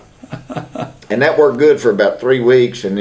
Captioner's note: laughter